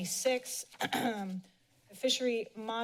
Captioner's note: clears throat